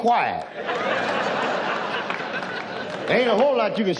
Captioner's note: audience laughs